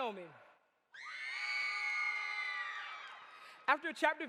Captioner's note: audience cheers